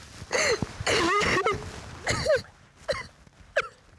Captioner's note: sobbing